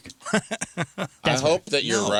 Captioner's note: laughing